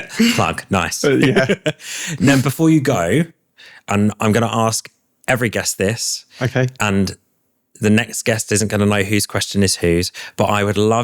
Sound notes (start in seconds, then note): 1.0 laughter